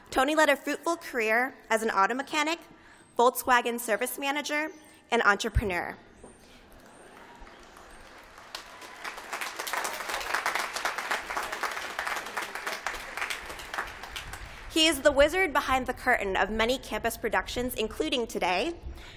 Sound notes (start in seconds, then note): 6.8 applause